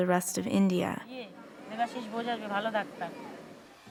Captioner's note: speaking Indian language